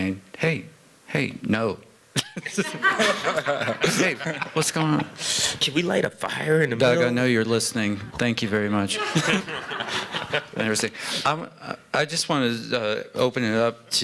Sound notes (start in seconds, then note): 2.2 laughter; 2.2 chuckles; 8.9 laughter